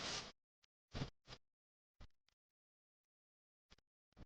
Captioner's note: none